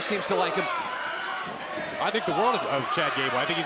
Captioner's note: crowd cheering